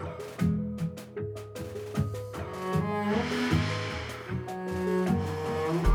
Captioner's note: both exhales deeply